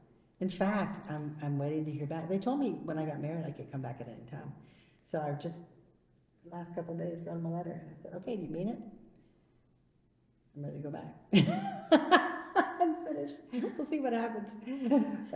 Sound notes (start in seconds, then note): 11.3 laughs